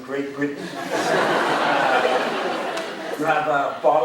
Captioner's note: crowd laughing